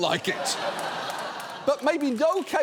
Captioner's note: audience laughs, applauds